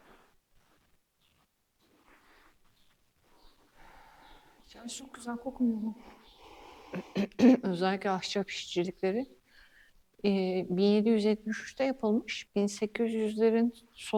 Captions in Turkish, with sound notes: Çok güzel kokmuyor mu? [boğazını temizler] Özellikle ahçap işçilikleri eee 1773'te yapılmış. 1800'lerin